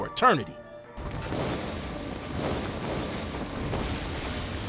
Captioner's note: whooshing